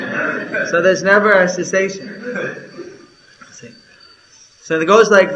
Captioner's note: laughter